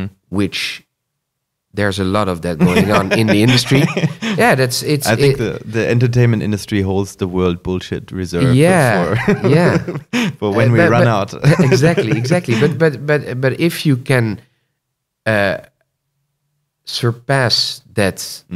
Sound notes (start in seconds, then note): 2.6 laughter; 8.4 laughs